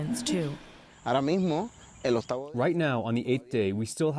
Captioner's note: through translator